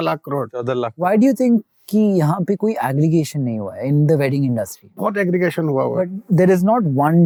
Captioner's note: speaking in Hindi; both speaking in Hindi